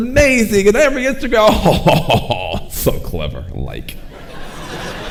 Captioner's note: audience chuckling; chuckles; audience laughing